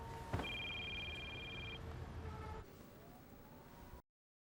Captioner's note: phone ringing